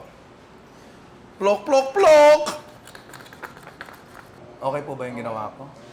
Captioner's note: sound effects